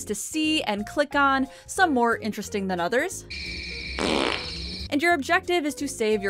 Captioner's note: Pumpkin farts